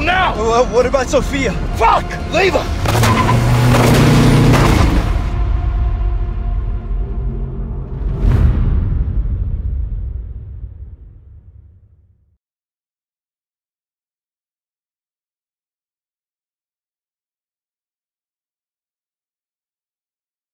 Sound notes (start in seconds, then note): 2.4 tires screech; 2.8 gunshots